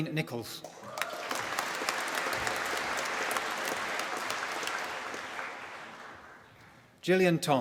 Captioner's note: applause